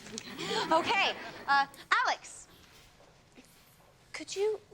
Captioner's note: audience laughs